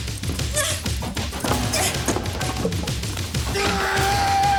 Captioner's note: upbeat suspenseful music; Jodie grunting; Graham grunting